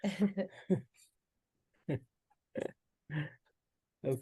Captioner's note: panel laughs